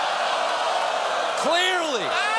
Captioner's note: audience reacts